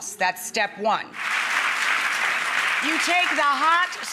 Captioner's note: audience applauds